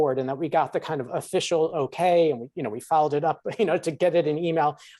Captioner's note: chuckles